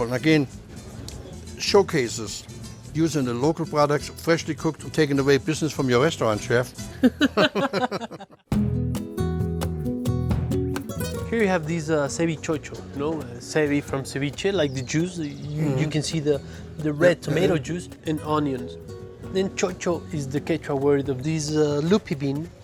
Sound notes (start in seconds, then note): 6.9 both laugh; 8.5 soft acoustic guitar music